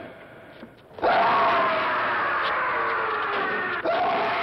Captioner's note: scream